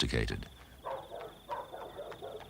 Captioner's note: dogs barking; horse carriage galloping